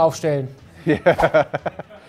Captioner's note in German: lachend